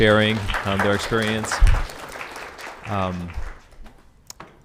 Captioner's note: all applauding